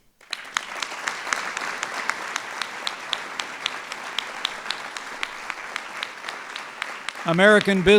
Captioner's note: applause